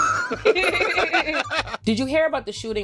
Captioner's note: both laughing